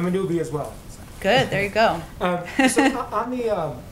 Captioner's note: laughs